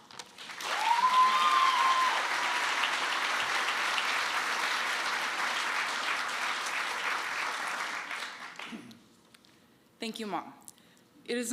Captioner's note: applause